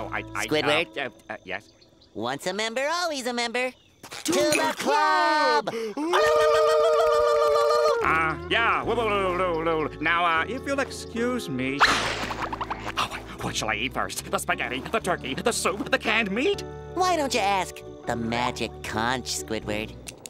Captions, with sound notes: - Squidward? - Umm... uh... yeah? Once a member, always a member! To the club! [victory screeching] Uh, yeah. [mimics victory screeching] Now, uh, if you'll excuse me... What shall I eat first? The spaghetti, the turkey, the soup, the canned meat? Why don't you ask... the Magic Conch, Squidward?